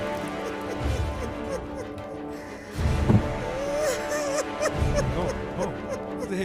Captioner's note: Wailing